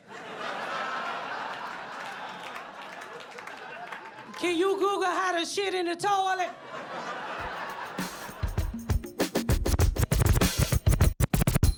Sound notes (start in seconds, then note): 0.5 audience applauds; 6.4 audience laughs; 7.4 hiphop beats music